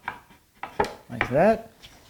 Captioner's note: plank on plank clacking